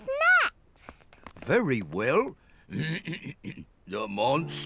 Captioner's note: clears throat